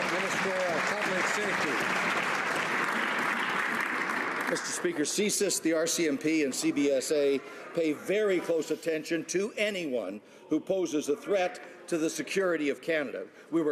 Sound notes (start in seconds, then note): 2.4 some Applause